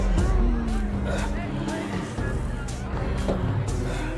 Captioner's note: people moaning